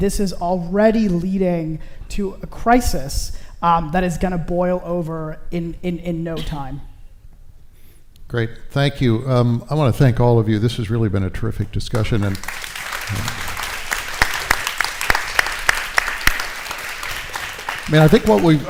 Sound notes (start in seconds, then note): 11.9 applause